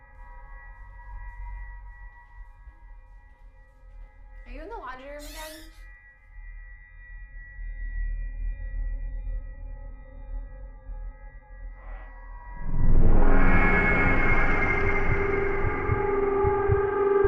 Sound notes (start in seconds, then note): 0.0 soft tense music; 11.8 soft eerie music; 12.6 heartbeat thumping